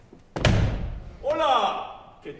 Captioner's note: URBAN, disguised as GENERAL, in Spanish